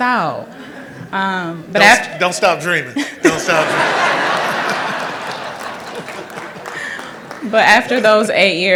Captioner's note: laughter